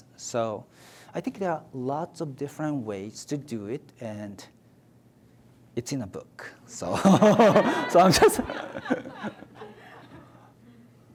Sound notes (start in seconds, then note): 7.0 audience laughs